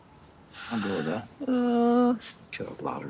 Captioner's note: Grace sighs